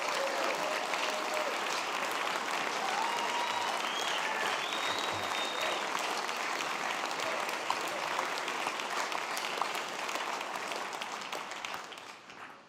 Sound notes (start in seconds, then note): 0.0 applause; 2.1 cheers and applause